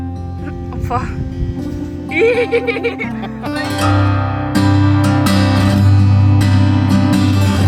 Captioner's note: background music; laugh; background music